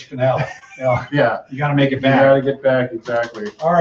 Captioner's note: chuckle